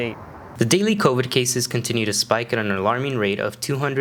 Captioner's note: male Voice